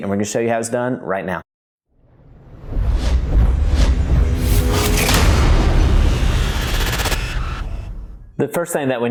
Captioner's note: sound effect